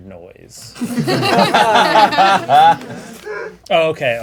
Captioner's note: crowd laughing